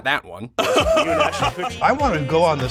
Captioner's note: Jeffery Bezos laughs